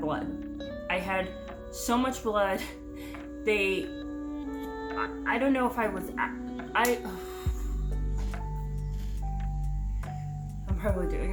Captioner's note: deep breath